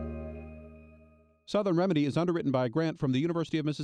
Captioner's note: voiceover